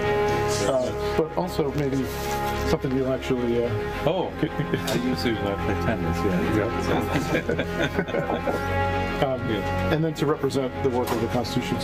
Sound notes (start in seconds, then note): 2.5 laughter